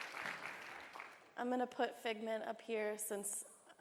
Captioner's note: applause